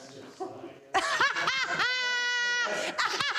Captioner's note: laughs; continues laughing